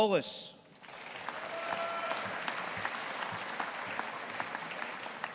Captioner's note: audience applauding